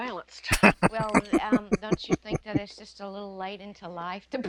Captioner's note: laughing